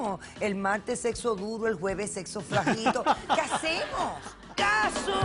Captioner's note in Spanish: Risas